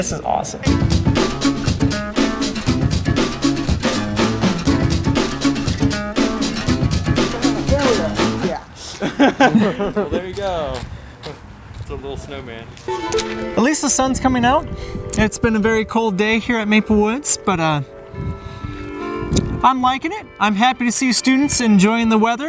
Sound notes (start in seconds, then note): 0.6 instrumental music; 6.8 men laughing